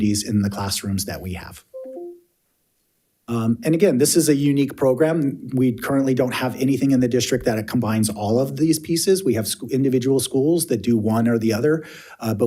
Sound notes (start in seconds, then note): 1.7 computer notification chimes